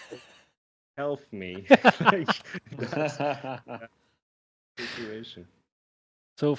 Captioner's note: laughter